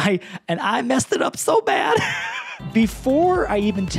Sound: laughs

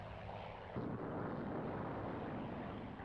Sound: exploding

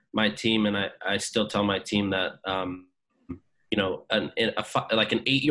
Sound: stutters

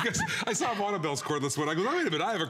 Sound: laughter

